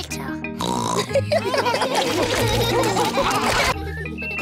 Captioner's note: snorts; laughter; children giggling